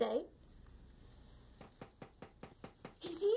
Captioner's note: soft knocking on door